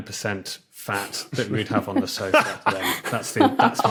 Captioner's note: cackle